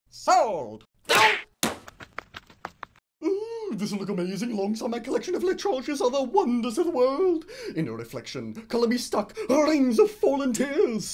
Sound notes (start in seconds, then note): 1.6 hammer slams on Whiner's head; 1.6 thud